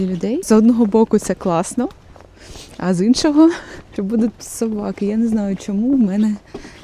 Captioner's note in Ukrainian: сопіння